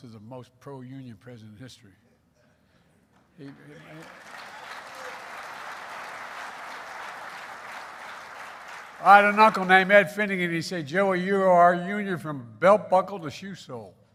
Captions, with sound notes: as the most pro-union president in history. He -- (applause). I had an uncle named Ed Finnegan. He'd say, "Joey, you are union from belt buckle to shoe sole."